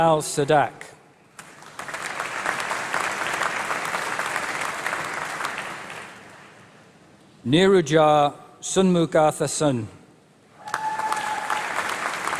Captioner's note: applause